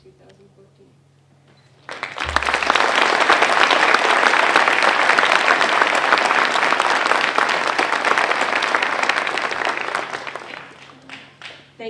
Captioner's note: applause